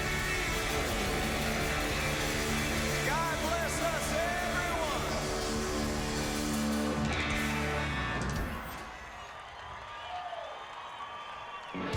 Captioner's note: cheers and applause